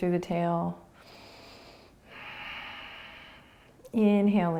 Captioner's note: breathing